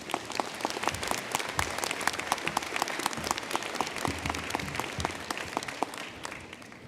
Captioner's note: applause